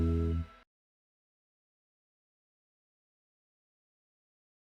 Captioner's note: no audio